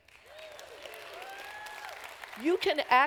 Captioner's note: applause